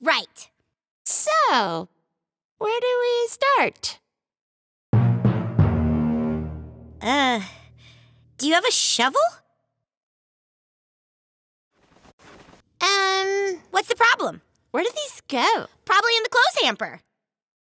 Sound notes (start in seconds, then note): none